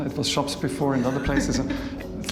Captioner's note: laughs